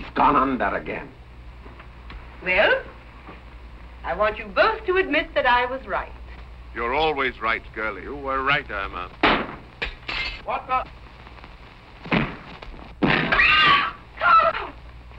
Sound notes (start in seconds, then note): 9.2 gunshot; 13.1 screaming